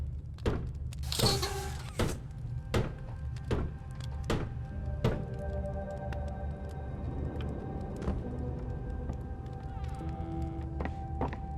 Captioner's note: door creaks; footsteps